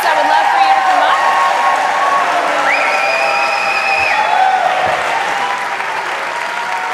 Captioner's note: cheers and applause